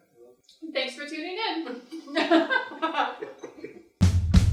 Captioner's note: laughter